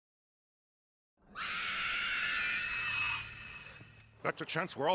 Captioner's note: ringwraith scream